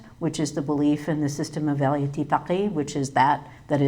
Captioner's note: speaks in foreign language